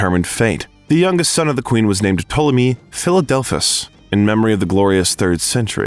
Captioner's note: uh